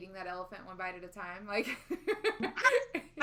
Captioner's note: laughing